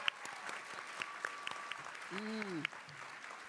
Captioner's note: cheering